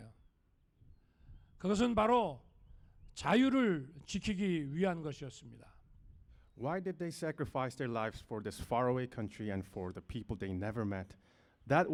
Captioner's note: speaking non-english